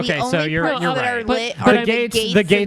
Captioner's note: laughs